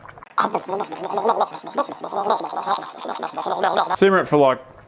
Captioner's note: making gurgly, simmer-y noises